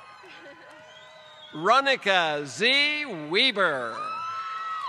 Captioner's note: applause